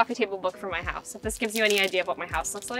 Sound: book cover crinkles

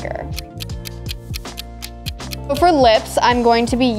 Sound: clock ticking

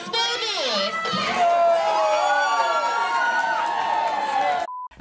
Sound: guests cheer

